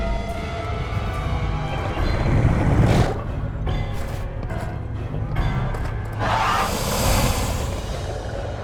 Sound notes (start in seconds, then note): 1.9 Makuta growling; 6.4 Makuta hissing